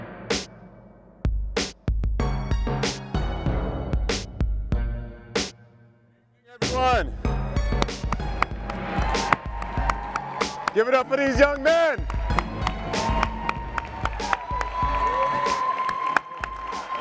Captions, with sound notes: - Good evening, everyone. (audience cheering) - Give it up for these young men! (audience clapping and cheering)